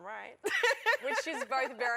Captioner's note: laughter